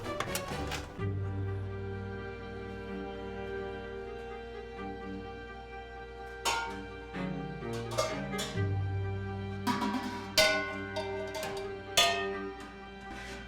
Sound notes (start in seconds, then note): 0.9 gentle dramatic music; 7.7 metal clanking